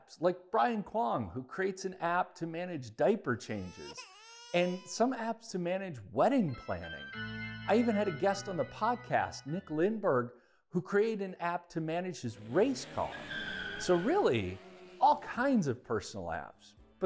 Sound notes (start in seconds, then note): 3.6 baby whining; 6.4 wedding music; 12.3 screeching tires